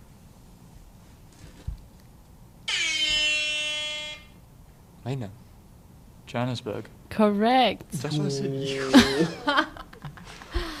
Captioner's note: horn Sound